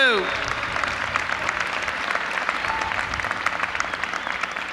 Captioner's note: audience applauding